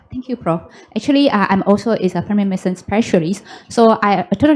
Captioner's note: foreign language